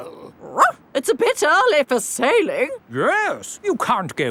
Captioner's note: barks